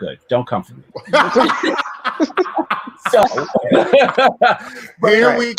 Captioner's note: laughing